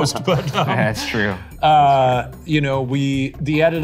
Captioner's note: all laughing